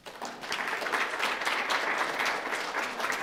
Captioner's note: applause